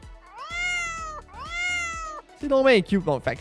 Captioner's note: meow